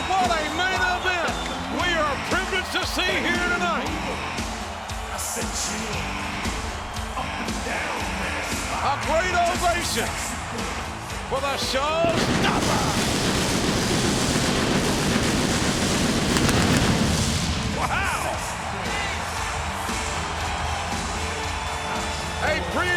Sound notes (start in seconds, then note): 11.9 pyro blasting; 20.5 audience cheering